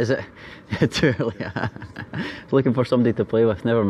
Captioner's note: laughter